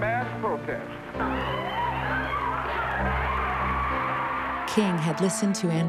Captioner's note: cheers and applause